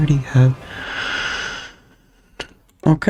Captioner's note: inhales Oxygen